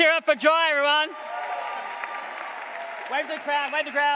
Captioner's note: applause